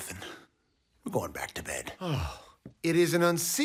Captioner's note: sighs